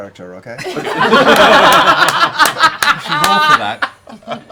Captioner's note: laughter